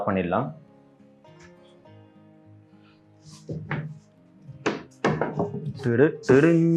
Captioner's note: wood sound; singing some songs